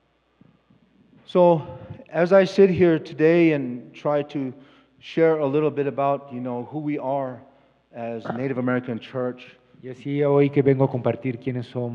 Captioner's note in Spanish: Expositor habla en inglés